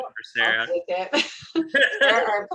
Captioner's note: laughing